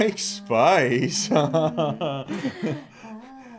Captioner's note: Butch chuckles